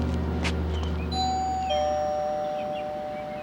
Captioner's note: doorbell chiming